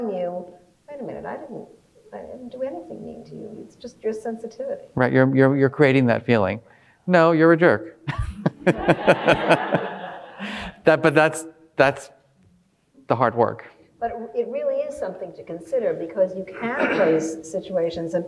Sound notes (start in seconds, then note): 8.1 all laughing